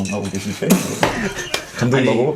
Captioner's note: cracks up